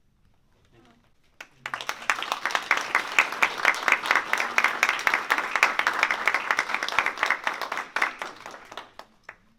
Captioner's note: applause